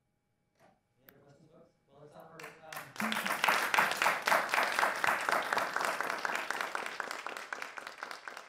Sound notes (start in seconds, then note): 1.4 man speaking off mic; 2.4 audience applauding